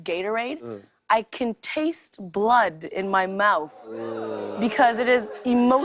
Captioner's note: audience oohs